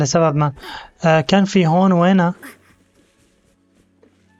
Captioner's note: Kali grunting